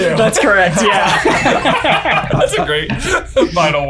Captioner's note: laughs